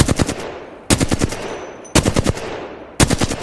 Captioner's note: sound of shooting